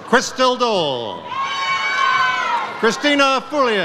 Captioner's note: audience cheers